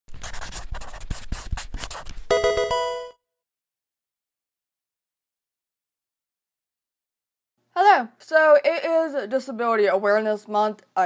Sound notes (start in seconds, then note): 0.1 marker scratching; 2.3 electronic video game chime